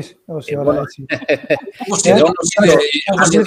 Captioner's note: γέλια